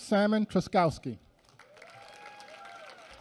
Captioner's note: applause